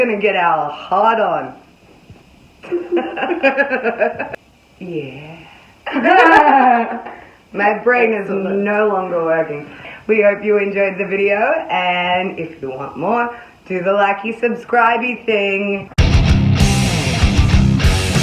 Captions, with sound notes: We're gonna get our Hart on... (laughs) - Yeah... - (both giggling) - My brain is no longer working We hope you enjoyed the video, and if you want more, do the likey subscribey thing